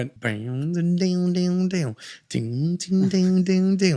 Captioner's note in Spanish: imita el tambor